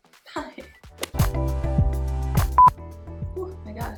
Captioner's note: beep